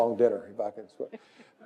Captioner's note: laugh